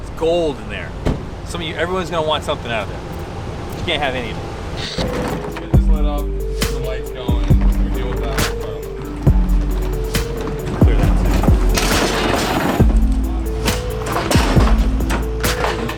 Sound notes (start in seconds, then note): 9.9 laid back hip hop music; 12.1 loud clanking